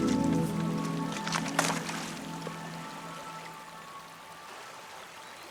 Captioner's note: the sound of falling into water